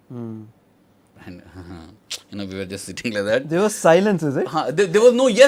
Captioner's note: sighs